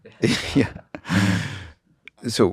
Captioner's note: laughs